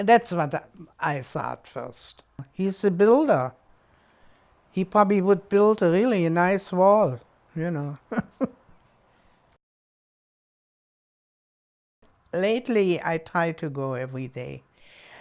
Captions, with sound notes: that's what I thought first. He's a builder. He probably would build really a nice wall. (chuckles) Lately, I try to go every day.